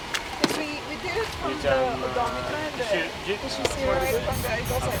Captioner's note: team chattering; loud spraying